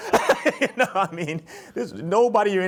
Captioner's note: chuckles